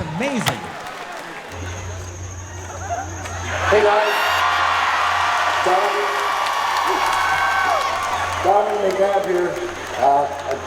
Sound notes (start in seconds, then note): 3.7 audience laughing